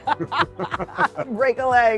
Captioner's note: laughter